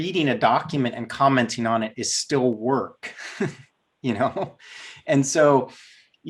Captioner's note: laughs